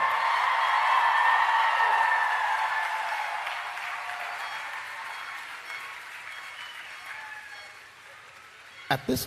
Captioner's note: applause and Cheering